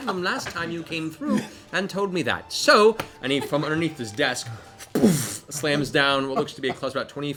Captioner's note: boof